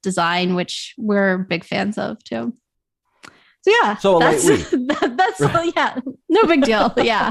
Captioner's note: laughter